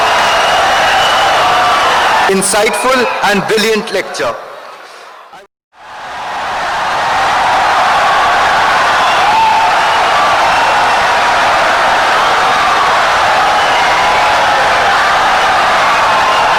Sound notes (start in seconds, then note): 5.8 wild applause and cheering for 17 seconds